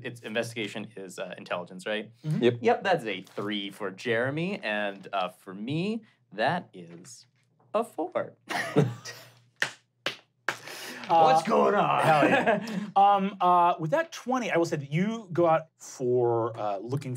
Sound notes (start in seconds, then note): 8.9 clapping slowly; 8.9 laughing